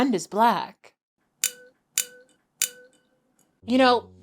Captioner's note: glass clinks